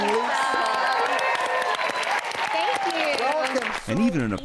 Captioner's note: audience cheering